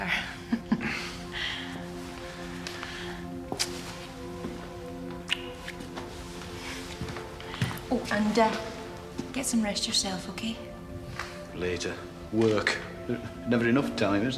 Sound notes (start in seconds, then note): 0.3 both laughing softly; 2.4 gentle orchestral music; 5.2 kissing